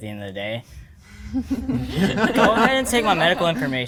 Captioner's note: everyone laughing